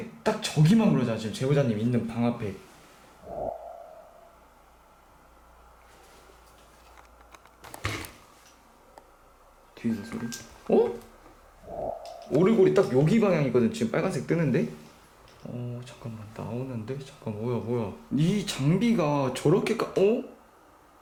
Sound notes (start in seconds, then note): 7.2 shhhh; 10.6 the sound of the music box